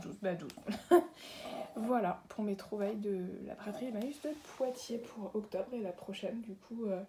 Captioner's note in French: rire